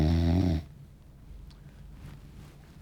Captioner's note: snoring